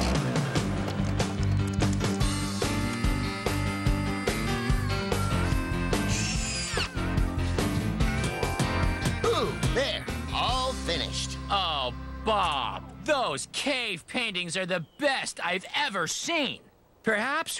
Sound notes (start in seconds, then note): 6.6 errrrrttt!; 8.7 tapping